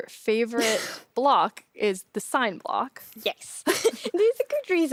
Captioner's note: laughs; laughs